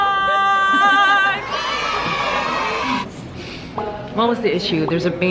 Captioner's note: cheering